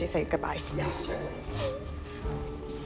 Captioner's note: whimpering